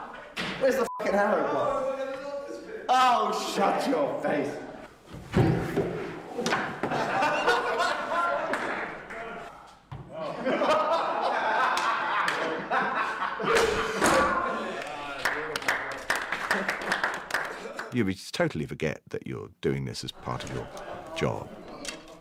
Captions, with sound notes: Where's the ******* arrow gone? Oh, shut your face. [MEN LAUGHING] [MEN LAUGHING] Yeah, but you totally forget that you're doing this as part of your job.